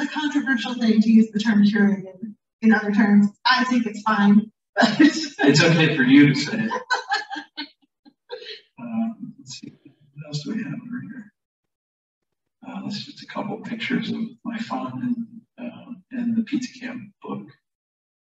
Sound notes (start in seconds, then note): 4.8 laughter